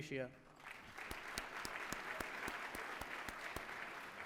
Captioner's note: applause